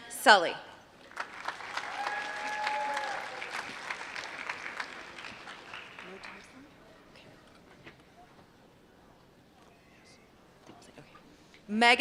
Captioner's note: applause